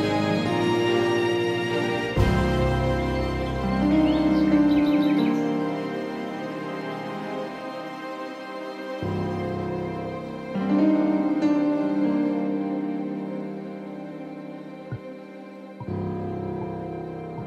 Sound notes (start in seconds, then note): 0.2 dramatic music; 3.2 birds chirping; 9.1 dramatic music; 14.6 ball bouncing